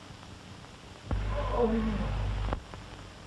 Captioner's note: man groans